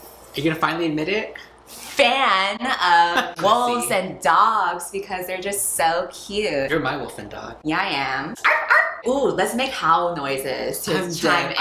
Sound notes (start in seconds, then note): 8.4 woofs